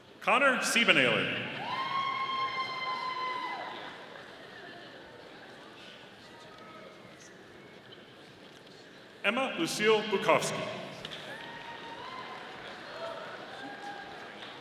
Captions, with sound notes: Connor Sibenaler. (audience cheering) Emma Lucile Bukowski. (audience applauding)